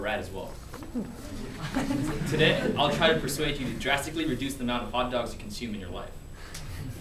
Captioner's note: laughter